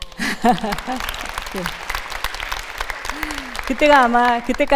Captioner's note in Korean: 박수